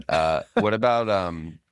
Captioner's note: laughs